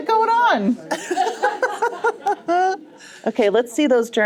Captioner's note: more laughter